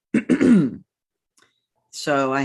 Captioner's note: clears throat